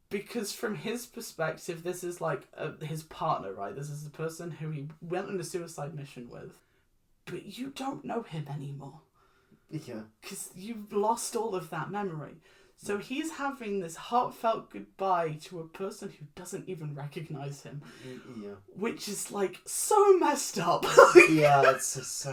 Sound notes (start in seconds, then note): 18.6 discomfort noises; 20.8 laughs